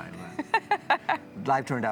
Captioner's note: laughing